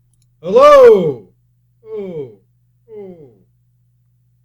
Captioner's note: Markus echoes his "hello"